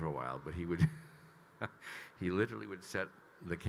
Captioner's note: Kyle laughing